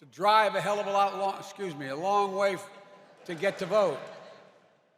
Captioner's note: laughter